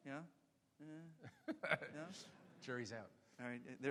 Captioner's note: laughs